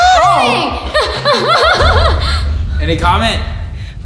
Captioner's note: laughing